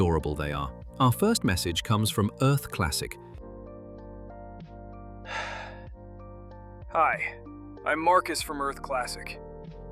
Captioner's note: stressed, breathing heavily